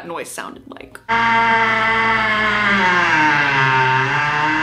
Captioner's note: loud whirring